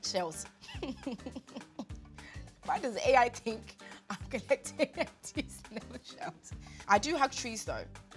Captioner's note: laughs